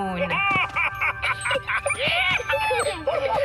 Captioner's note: excited laughter